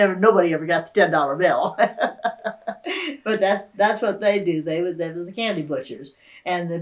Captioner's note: laughs